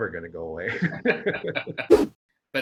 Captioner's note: laugh